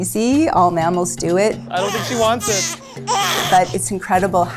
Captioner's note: baby continues crying